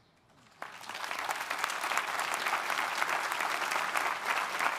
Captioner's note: audience applauding